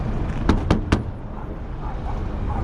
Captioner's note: bam bam bam; their dog is barking